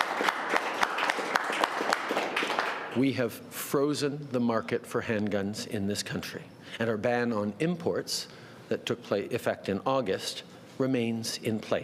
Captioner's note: applause